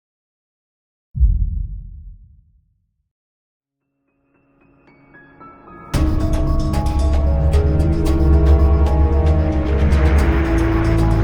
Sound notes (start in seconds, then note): 1.1 muffled boom; 5.8 dramatic music